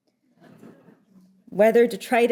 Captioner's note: audience chuckling